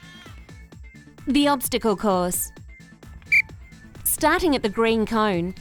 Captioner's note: whistle blows